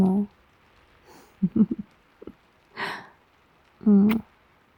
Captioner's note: laughs